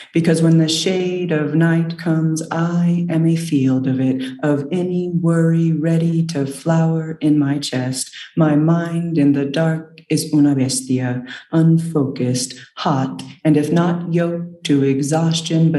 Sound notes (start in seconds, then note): 10.2 speaks in foreign language